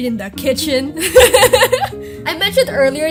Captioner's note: giggles